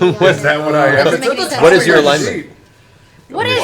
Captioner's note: laughs